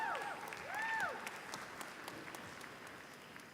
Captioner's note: applause